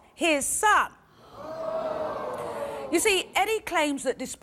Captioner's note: audience groans